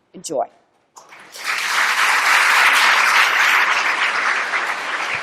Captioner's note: applause